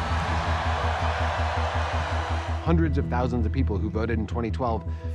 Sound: crowd cheers

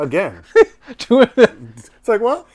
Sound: laughing

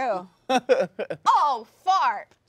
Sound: laughing

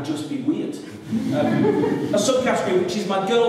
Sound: laughter

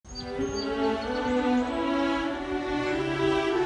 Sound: birds chirping

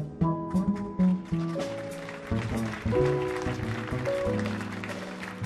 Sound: audience applauding

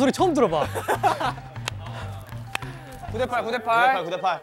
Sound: is laughing but not laughing

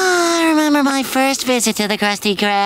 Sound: sighing

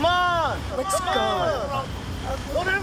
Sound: men yelling

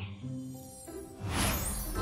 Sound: whoosh

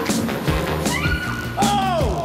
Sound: energetic music; screaming

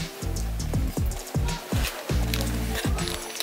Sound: nom

